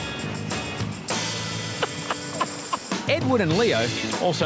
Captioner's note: laughing